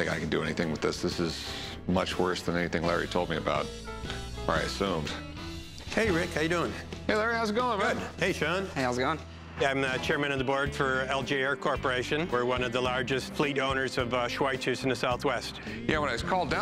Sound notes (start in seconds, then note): none